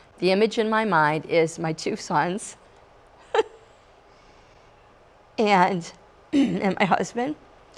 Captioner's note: chuckles